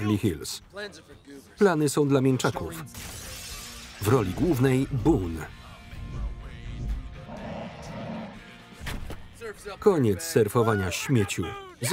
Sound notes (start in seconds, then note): 7.2 bear growling